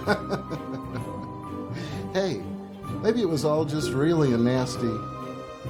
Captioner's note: laughs